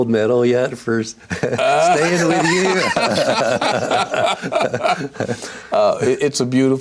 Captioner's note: laughter